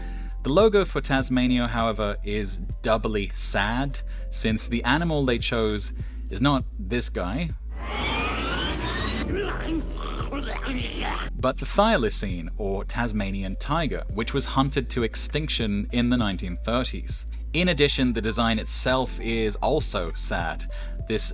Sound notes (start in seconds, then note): 7.8 cartoon Tasmanian devil noises